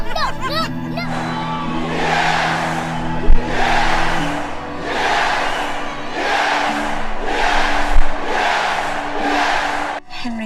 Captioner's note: crowd cheering